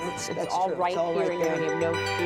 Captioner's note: whisper